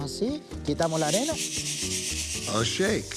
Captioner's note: speaking Spanish